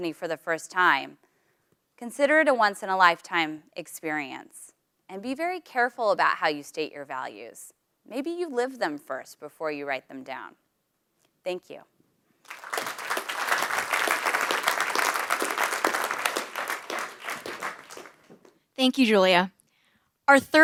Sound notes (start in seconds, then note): 15.5 applause